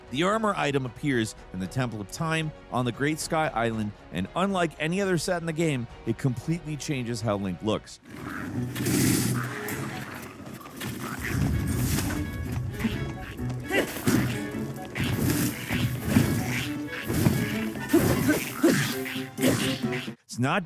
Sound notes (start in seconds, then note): 8.0 creature grunting; 8.7 arrow thudding; 11.0 creature grunting; 13.7 Link grunting; 13.9 flames whooshing; 17.9 Link grunting; 18.0 creature chittering